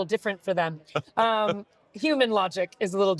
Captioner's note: laughing